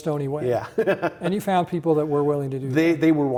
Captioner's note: laughing